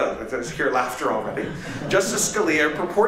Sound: laughter

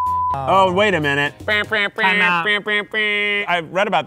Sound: makes buzzer sounds

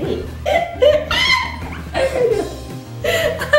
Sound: laughing

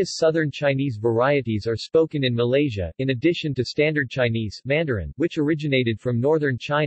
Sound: Mandarin

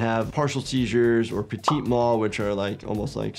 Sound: graphic pops

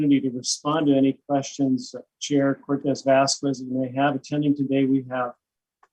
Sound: none

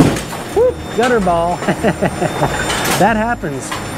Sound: laughs

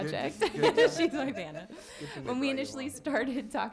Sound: laughs; some laughing

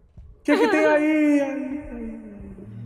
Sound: echoing voice effect

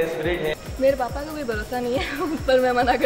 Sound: laughs

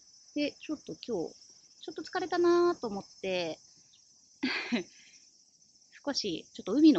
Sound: laughs

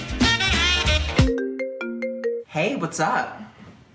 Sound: phone ringing

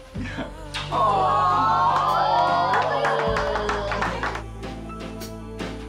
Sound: cheering and applauding

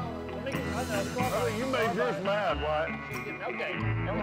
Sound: ongoing chatter

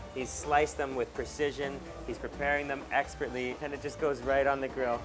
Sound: none

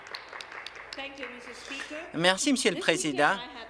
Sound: some Applause

